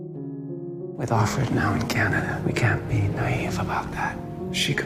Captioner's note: voiceover